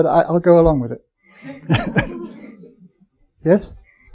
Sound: chuckling

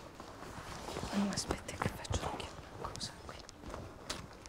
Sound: in a low voice

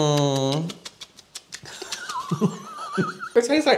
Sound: spitty Bread Mouth Noises

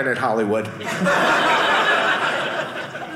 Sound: audience laughing

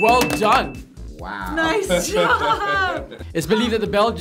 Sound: bell dings; laughing

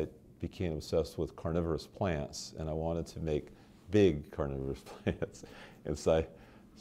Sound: chuckle

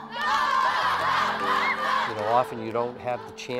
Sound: chants

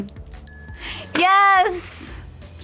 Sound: bell dinging

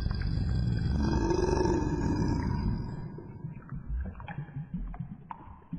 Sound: growls

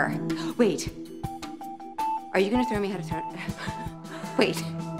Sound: stutters

